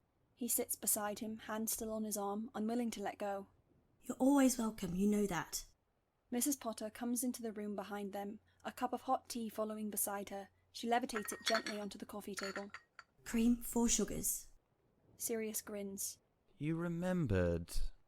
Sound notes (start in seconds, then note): 12.2 cup clinking